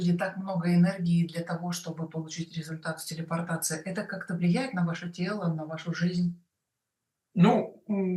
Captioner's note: Russian